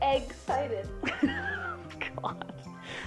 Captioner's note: laughs